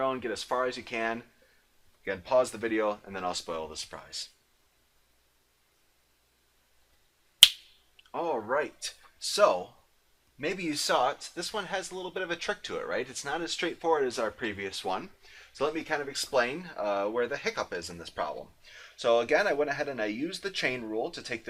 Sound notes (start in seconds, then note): 7.4 snaps fingers